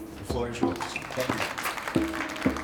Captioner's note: people clapping